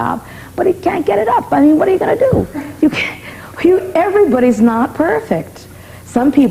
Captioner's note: laughter